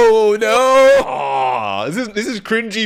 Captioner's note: groaning